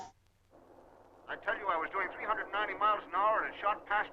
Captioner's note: radio